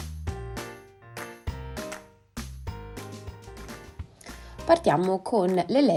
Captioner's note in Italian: Applauso